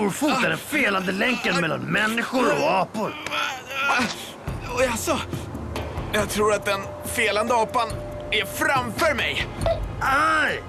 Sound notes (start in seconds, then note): 2.7 grunting